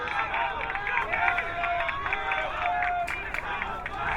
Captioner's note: crowd cheering